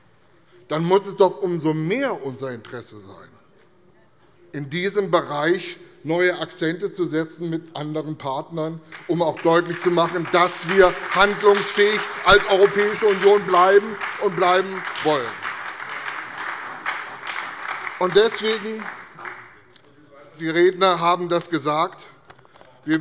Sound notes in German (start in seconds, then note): 15.6 Beifall bei der CDU, dem BÜNDNIS 90/DIE GRÜNEN und der SPD